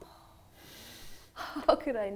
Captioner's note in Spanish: risas